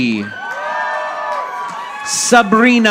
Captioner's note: audience applauding